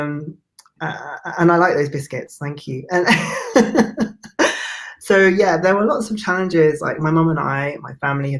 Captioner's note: both laugh